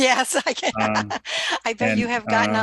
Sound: laughs

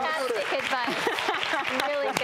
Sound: clapping; laughing

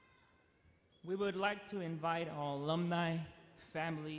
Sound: voiceover

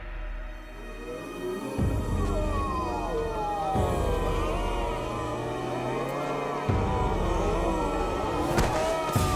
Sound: moaning

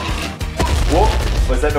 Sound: loud thud

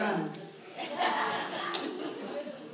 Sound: audience laughs

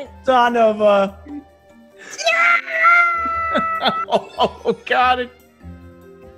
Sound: laugh

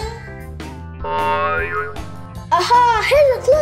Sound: cartoon boing sound effect

